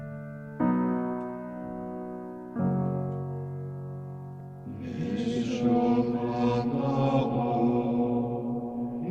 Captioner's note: chanting voices